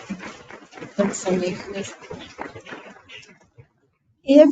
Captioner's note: people clapping